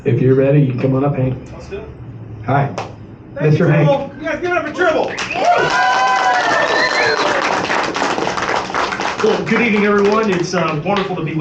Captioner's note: applause